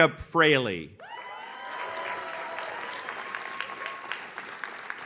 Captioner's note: audience cheers